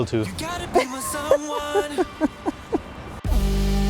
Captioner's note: laughs